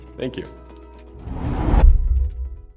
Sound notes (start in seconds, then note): 1.2 whoosh